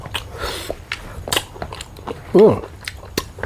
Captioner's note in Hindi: नाक से की जाने वाली आवाज़